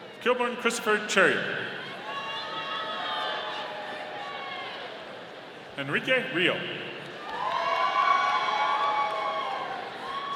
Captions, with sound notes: Kilbourne Christopher Charrier. (audience cheering) Henrique Rio. (audience cheering)